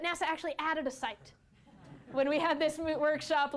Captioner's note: laughter